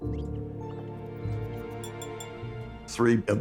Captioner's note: animals chittering, glass clinking